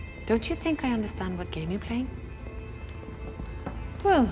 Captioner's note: none